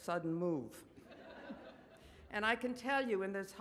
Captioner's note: audience laughs